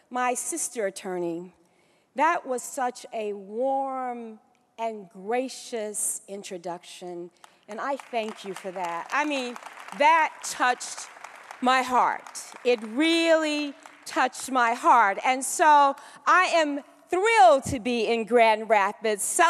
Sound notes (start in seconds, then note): 8.9 applause